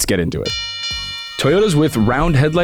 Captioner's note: bell chimes